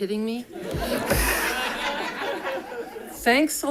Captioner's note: audience laughing